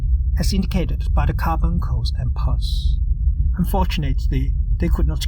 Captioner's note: humming noise